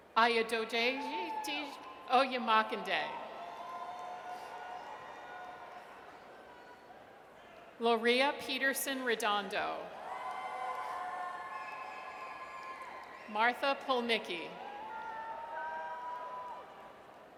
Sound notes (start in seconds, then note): 3.1 audience cheers; 9.9 audience cheers; 15.2 audience cheers